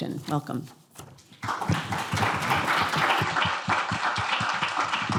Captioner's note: applause